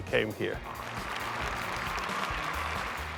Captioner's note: applause